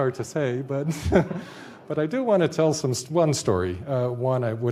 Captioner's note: laughs